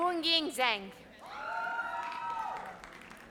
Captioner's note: audience cheers